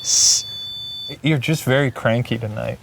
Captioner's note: hisses